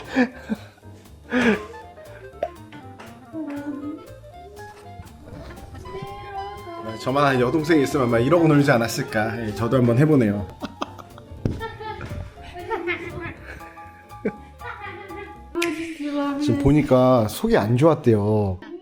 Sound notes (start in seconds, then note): 12.4 laughing along